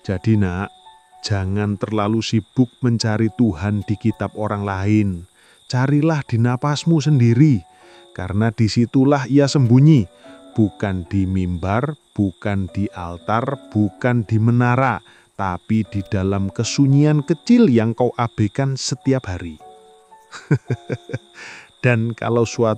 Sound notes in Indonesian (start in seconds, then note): 20.3 tertawa